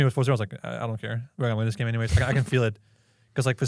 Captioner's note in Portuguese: risos